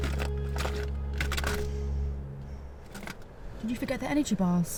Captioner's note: objects rattle